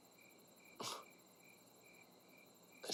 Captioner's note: scoffs